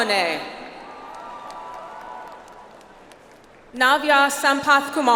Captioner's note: audience applauds